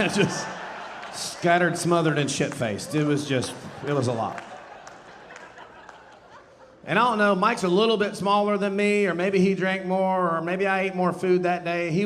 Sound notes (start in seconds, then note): 4.6 audience laughing